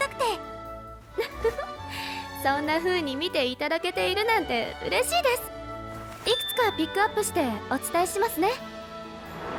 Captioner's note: laughs